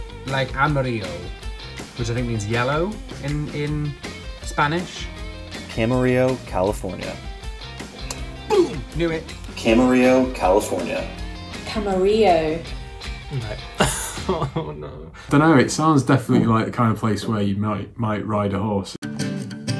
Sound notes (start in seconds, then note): 13.3 laughs; 19.6 upbeat music